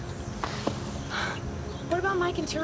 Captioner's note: sighing